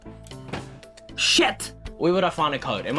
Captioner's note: thud!